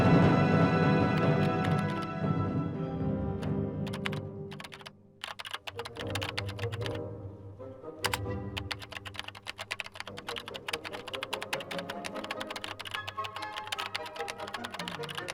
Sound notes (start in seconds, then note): 0.0 dramatic music; 5.1 keys clicking